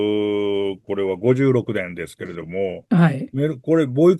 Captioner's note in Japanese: 咳払い